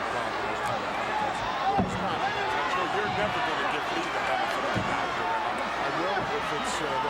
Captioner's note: commentators chattering indistinctly